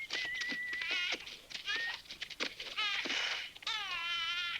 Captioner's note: baby crying